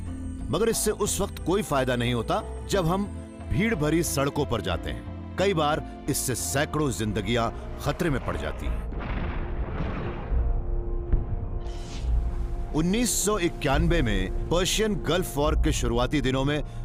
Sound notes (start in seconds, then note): 8.8 explosions